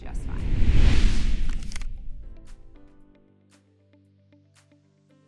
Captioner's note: question whooshes